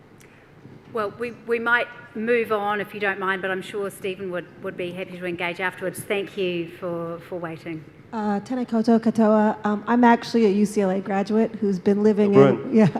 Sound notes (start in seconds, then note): 8.5 speaks in foreign language; 12.8 chuckles